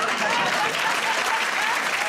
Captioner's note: applause